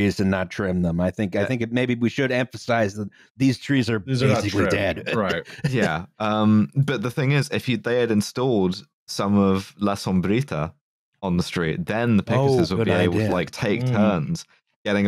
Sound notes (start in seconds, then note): 4.2 chuckles